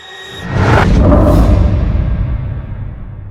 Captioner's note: startling tone; eerie music